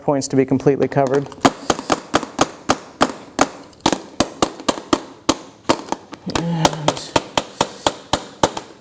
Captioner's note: tapping sound